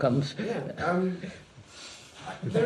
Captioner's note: laughter